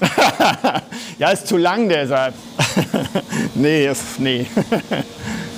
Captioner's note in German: Lachen; lacht